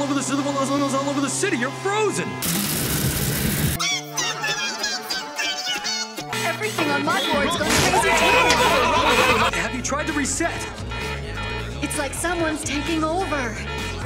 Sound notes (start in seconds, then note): 6.8 klaxon blaring; 7.2 complete pandemonium drowns out her voice